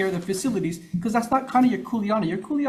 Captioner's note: speaking Hawaiian